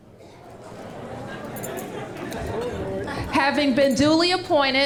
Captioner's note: laughter